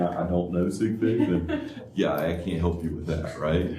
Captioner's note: laughter; laughter